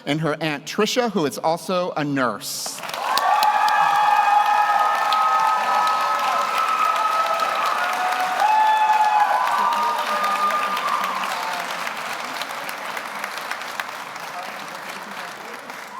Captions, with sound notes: and her aunt Tricia, who is also a nurse. (audience cheers) (audience applauds)